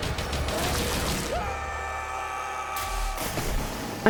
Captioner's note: screaming